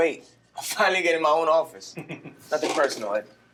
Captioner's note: Carson chuckling; chuckles